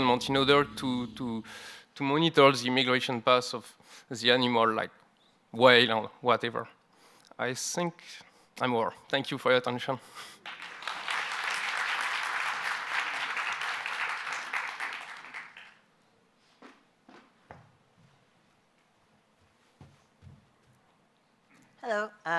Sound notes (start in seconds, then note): 10.4 applause